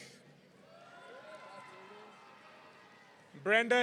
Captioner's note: audience cheering